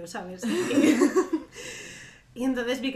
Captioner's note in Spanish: risas